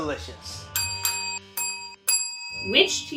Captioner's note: ding